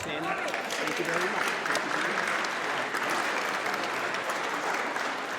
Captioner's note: audience applauds